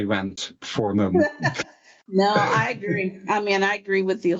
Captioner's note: laughs